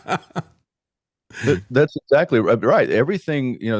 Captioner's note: laughing